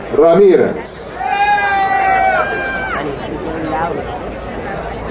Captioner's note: crowd cheering